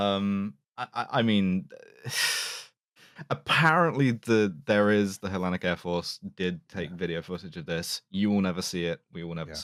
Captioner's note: exhales sibilantly